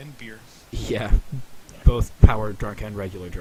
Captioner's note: chuckling